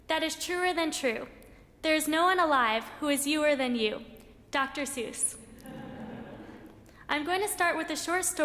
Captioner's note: laughter in audience